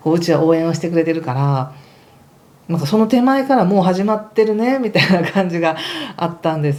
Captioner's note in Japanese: 笑い